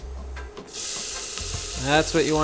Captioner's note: sizzling